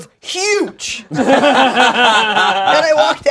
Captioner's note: group laughing